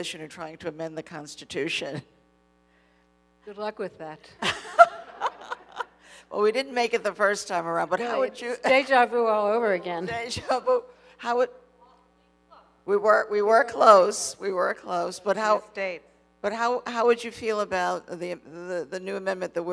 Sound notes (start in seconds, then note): 4.5 audience and panelists laughing